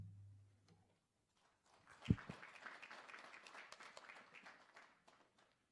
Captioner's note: applause